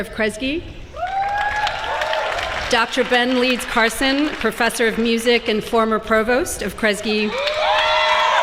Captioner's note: applause